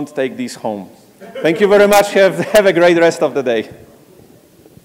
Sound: laugh

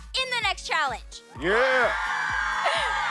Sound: cheering

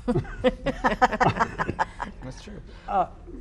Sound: group laughs

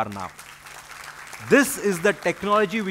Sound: applause

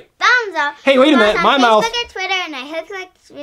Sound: voiceover

